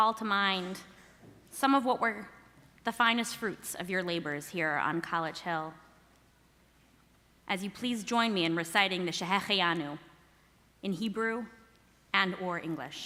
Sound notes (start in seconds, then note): 9.6 speaking hebrew